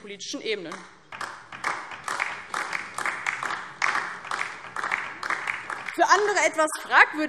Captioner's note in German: Beifall DIE LINKE